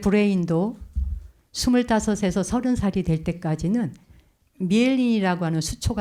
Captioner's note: speaking in Korean